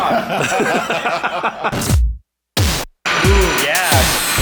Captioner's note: all laughing